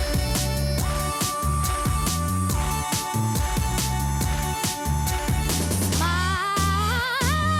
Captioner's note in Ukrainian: оплески